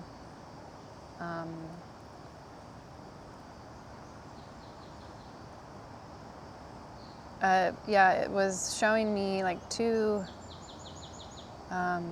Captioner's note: birds Chirping